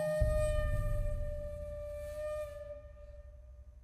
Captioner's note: horn blowing